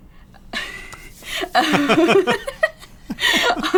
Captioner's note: laughter